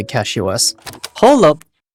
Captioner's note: VHS Click